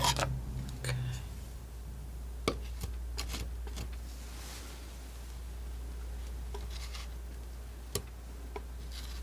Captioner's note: scratching